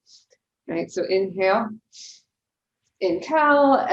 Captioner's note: inhales deeply